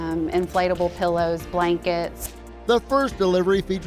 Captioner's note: pack shuffling